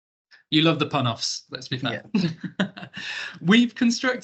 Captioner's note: laughs